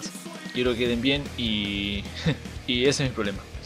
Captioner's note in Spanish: risa